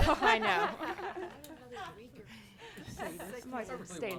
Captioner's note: all laughing; speaking faintly